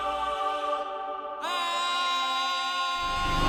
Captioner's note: battle cry